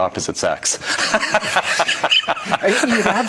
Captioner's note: laughs